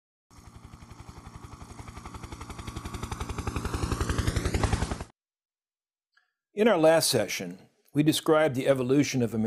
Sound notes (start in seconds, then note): 0.3 helicopter in flight